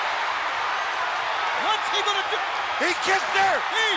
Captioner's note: crowd yelling